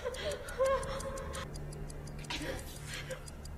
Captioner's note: person breathing heavily; clock ticking